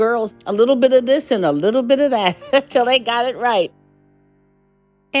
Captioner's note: laughter